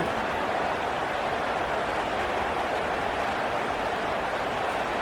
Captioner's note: crowd Noises